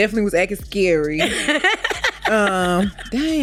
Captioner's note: laughs